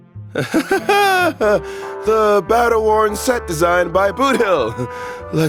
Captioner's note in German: seufz